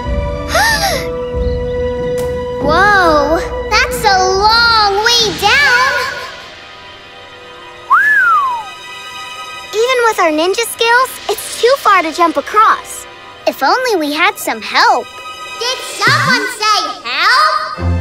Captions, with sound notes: [gasps] Whoa! That's a long way down. [whistling] Even with our ninja skills, it's too far to jump across. If only we had some help. Did someone say help?